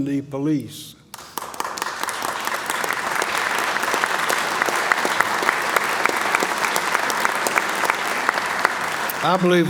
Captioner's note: applause